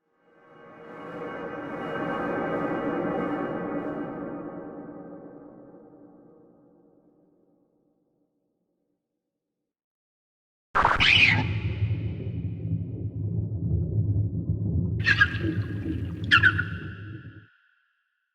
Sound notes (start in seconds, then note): 10.8 scream; 16.2 startled cries